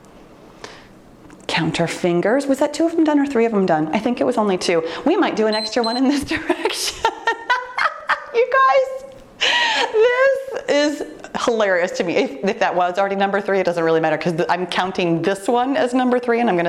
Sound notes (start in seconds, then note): 5.5 timer beeps; 6.0 laughing